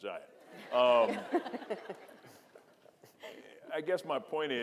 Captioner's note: audience laughing